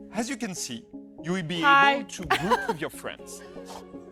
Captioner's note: laughs